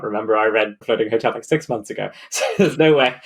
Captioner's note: laughs